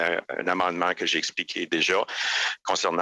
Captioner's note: speaking French